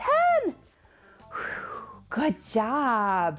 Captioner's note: sighs